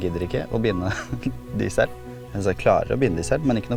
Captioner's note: giggle